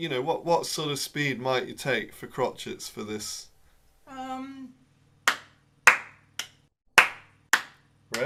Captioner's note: claps beat